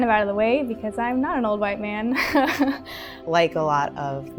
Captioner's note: laughs